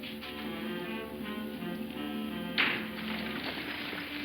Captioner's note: wagon rattling; pleasant music